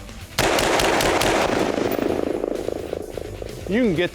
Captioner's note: gunshots